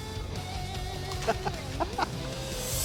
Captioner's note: laughing